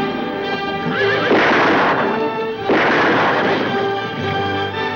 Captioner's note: whip cracking; guns firing